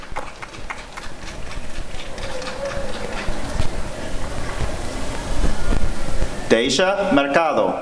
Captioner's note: applause and cheering